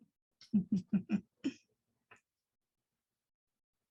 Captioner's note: laughs